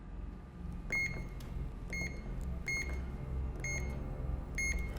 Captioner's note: beeping